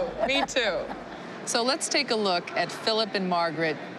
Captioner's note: laughing